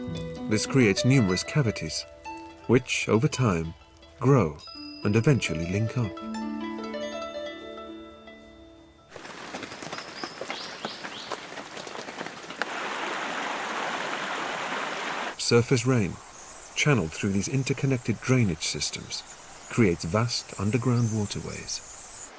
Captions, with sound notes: This creates numerous cavities, which, over time, grow and eventually link up. (rain pelting) (water rushing) Surface rain channeled through these interconnected drainage systems creates vast underground waterways.